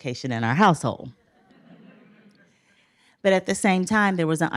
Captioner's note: laughter